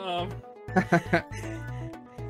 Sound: laughing

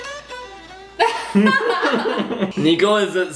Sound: laughs

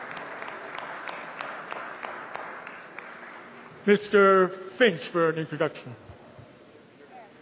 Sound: applause

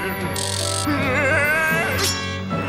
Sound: laughing

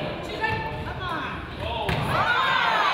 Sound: crowd

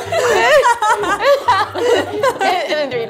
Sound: laughs

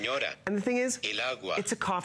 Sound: electronic voice

